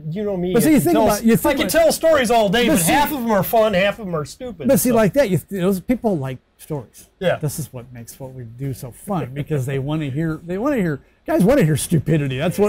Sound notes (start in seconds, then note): 4.9 stutters